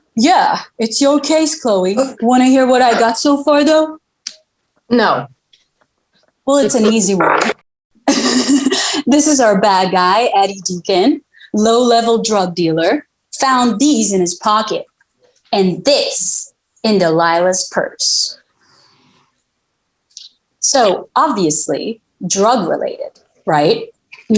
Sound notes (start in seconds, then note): 8.1 laughing